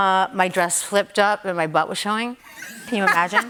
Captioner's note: laughter